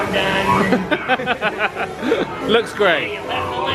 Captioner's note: laugh